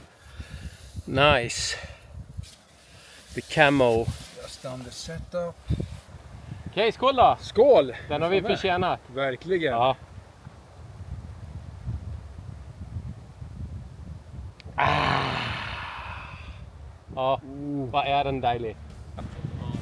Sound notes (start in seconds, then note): 6.7 speaking in foreign language; 14.8 man sighs